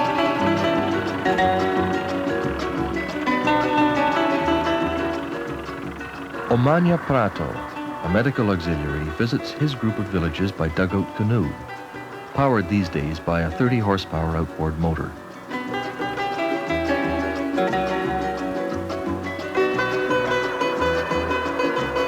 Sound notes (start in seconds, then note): 0.0 Latin music; 1.7 motorboat engine; 4.1 Latin theme music; 15.7 Latin music; 17.9 motorboat engine; 21.8 Latin music